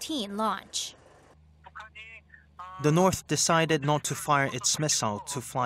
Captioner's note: Korean